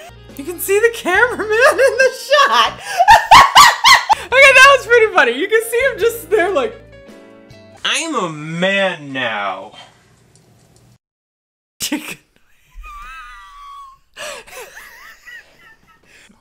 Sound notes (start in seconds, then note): 2.8 laughing; 12.4 laughing